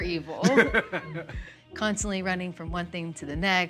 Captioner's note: Baratunde laughs